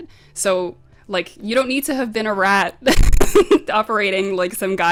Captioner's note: laughs